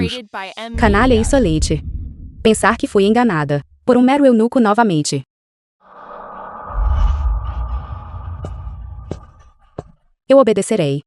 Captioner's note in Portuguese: grito